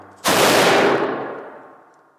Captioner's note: gunshot